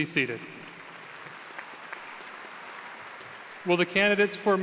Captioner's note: applause